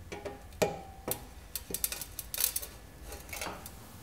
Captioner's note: cracking